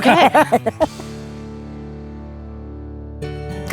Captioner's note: laughs